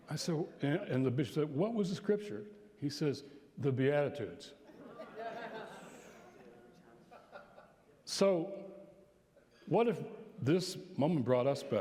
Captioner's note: laughter